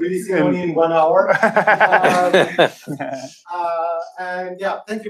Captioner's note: laughter